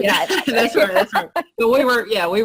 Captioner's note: laughter